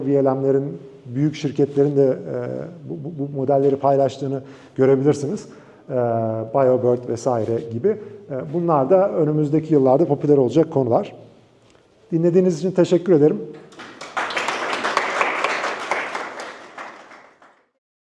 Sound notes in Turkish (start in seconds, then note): 13.5 alkışlama